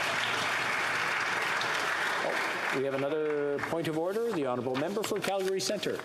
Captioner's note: applause